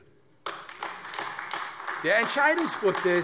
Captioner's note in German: Beifall AfD